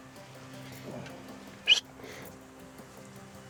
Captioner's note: whistles